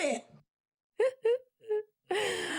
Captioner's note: laughs